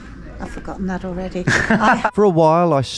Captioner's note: laughs